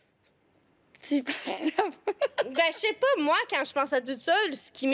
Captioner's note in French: rire